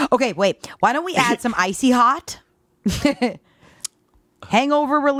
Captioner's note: laughing